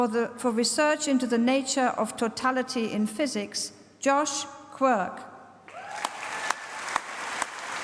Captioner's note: applause